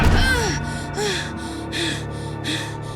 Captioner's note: breathing